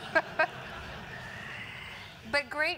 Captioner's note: laugh